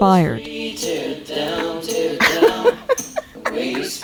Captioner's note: laughs